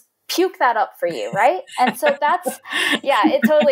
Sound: laughing

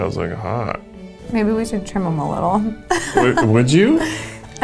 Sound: laughs

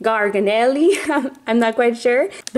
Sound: laughs

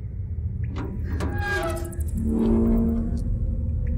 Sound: gate opens

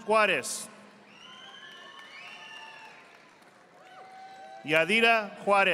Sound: audience applauding

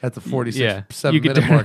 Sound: laughter

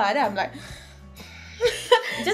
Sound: deep breathing

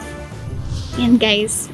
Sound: none

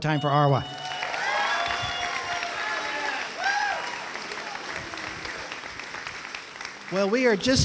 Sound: cheering

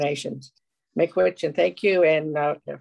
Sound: foreign language

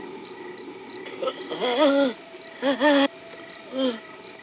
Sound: painful moaning

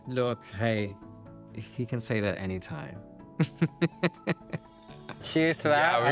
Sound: laughs

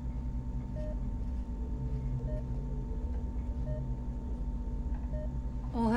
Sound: computer continues beeping

